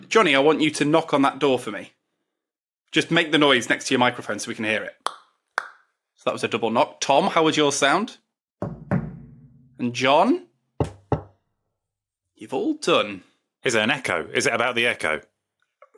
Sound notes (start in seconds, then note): 4.9 clicks tongue; 8.7 knocks echoey table; 10.8 knocks deadened table